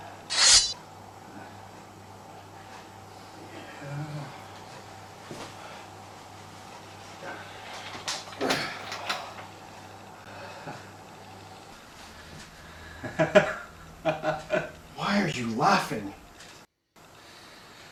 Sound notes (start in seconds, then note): 12.8 laughs